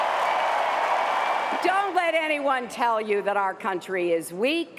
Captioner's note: cheers and applause